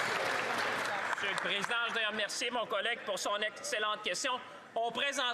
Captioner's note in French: voix de l'interprète